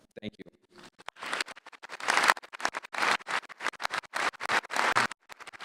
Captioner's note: audience applauding